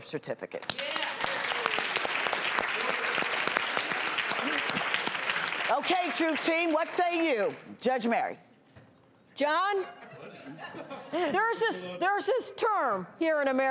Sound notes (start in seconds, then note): 0.6 audience claps